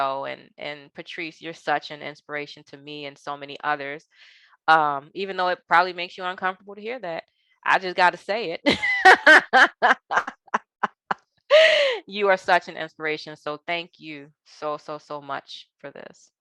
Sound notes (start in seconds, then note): 8.8 laughing